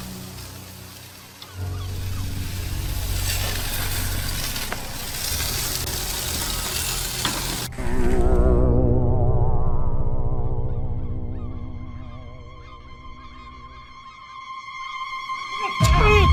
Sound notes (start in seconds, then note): 0.0 gulls squawking; 3.3 chicken sizzling; 10.9 gulls squawking; 13.1 dramatic music crescendos